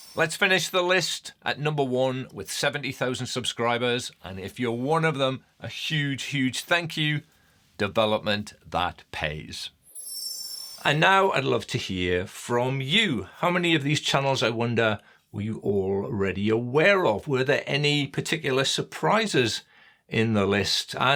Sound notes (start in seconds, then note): 9.8 screen twinkling